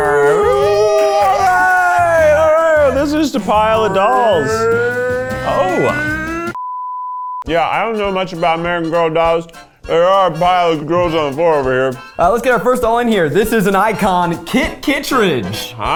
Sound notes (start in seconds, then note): 0.0 all cheering; 4.4 vocalizes